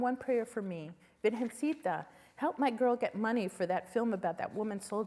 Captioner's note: spanish